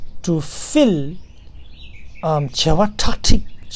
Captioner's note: tibetan